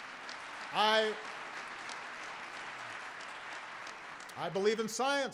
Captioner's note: applause